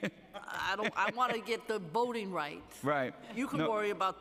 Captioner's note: laughter